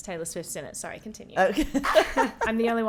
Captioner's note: laughing